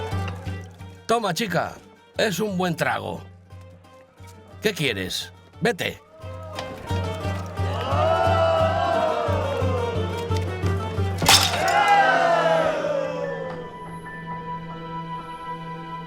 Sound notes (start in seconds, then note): 7.8 patrons cheering; 11.2 cup chatters; 11.2 men cheering; 12.9 gentle music